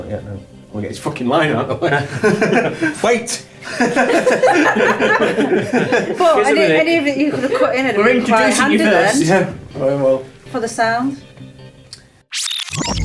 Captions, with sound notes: Not yet no...I want to get this fucking line out the way. WAIT! [LAUGHING]